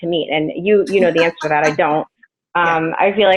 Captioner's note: laughing